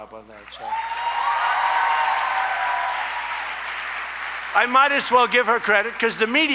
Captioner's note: applause